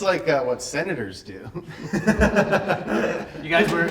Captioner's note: everyone laughing